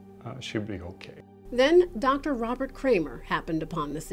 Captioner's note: voiceover